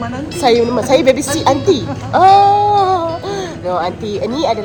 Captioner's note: laugh